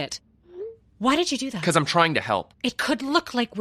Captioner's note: text sent alert